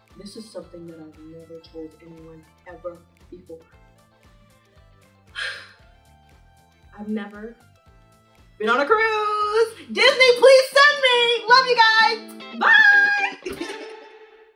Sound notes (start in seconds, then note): 5.3 sighing